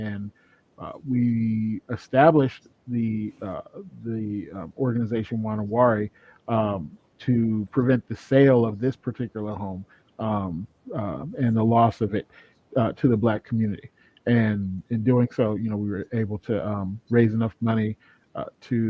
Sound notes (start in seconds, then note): none